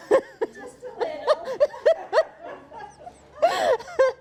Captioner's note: all laughing